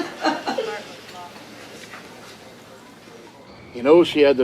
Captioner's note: Crystal laughing